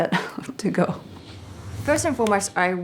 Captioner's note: whooshing